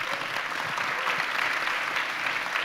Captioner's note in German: Applaus